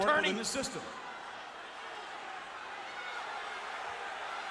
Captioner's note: crowd yelling